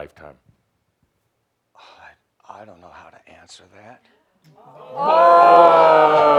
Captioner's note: audience says “Ohhhh!”